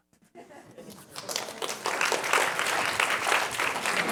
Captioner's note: applause